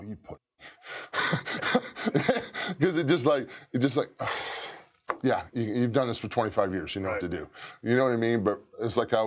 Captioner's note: laugh